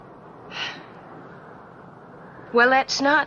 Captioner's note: Frances sighs